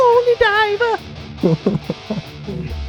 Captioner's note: laughter